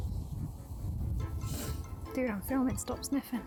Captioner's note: loud sniff